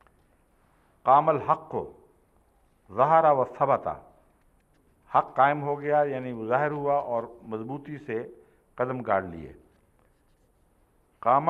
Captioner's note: Arabic